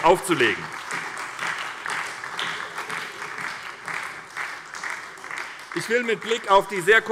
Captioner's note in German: Beifall bei der SPD